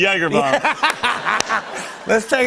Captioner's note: laughter